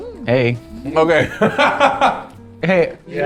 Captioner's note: laughs